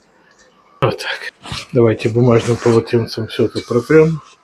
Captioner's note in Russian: фыркает